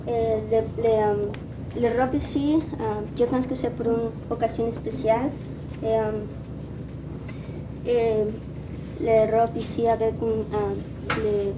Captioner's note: speaking in Spanish